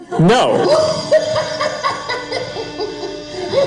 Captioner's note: laughing